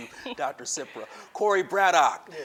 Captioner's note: laughs